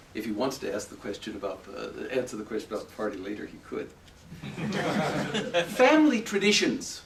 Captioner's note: laughter